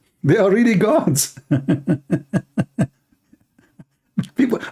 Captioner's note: Ketawa